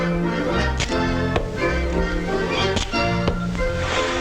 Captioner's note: stick smacking